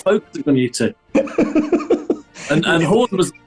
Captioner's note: giggling